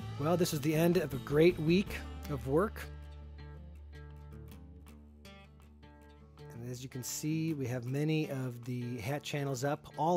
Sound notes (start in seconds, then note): none